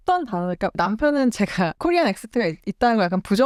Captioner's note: Korean Accent